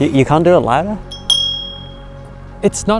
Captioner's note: bell dings